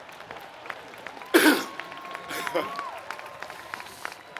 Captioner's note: applause; laugh; cough; laugh